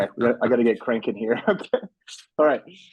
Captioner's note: chuckles